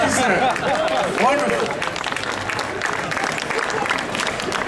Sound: audience clapping

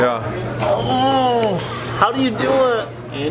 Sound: dad groans

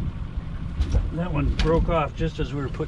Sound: fish thrashing

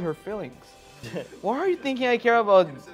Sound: laughs

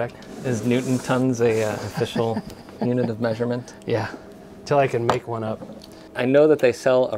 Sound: laughing

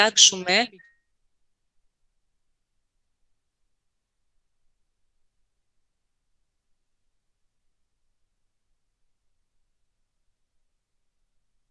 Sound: sound interruption

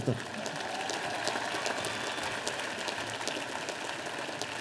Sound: audience applauding

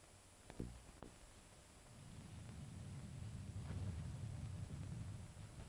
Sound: thunder rumbling

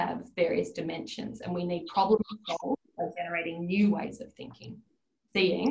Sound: audio distorts

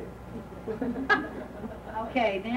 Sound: laughing

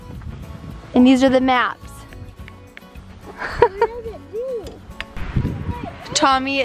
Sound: laughs

